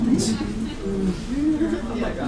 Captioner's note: laughter